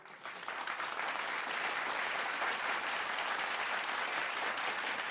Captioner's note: audience applauding